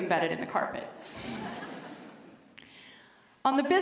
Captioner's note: laughter